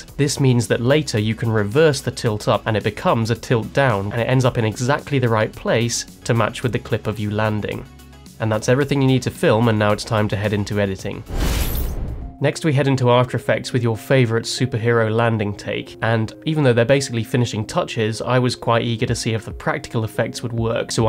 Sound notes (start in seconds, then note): 11.2 logo whooshes